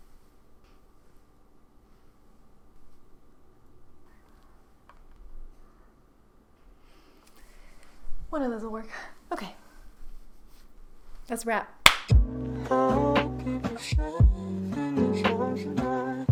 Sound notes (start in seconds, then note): 11.8 clap